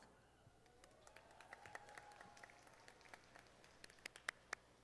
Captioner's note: audience applauding